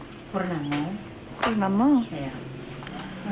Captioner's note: woman No.2 speaking native language